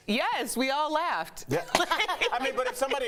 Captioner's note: laughter